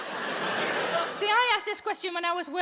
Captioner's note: audience laughs